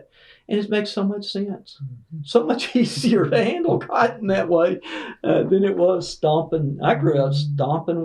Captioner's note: laughter